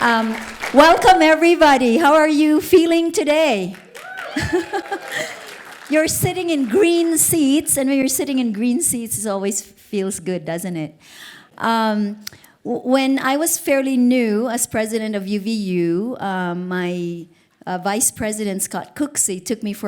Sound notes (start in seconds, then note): 2.6 crowd cheers